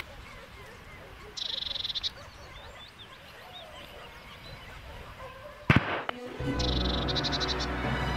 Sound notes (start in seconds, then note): 5.6 gunshot